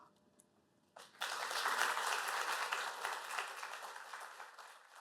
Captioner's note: applause